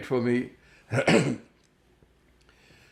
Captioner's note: clears throat